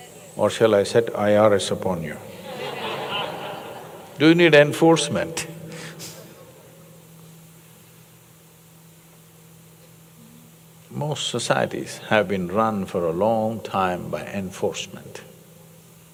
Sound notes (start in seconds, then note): 2.2 laughter; 5.6 laughs